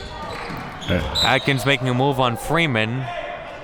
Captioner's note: whistle blows